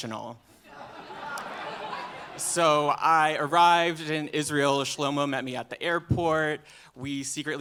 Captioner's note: laughter